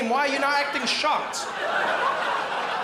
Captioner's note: crowd laughs